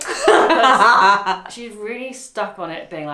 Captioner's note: laughs